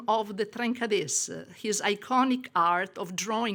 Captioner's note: woman speaking in foreign language